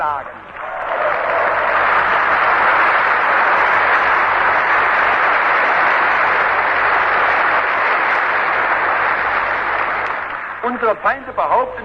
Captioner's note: applause